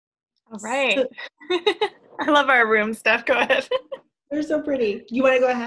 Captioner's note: laughs